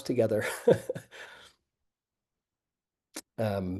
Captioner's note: laughing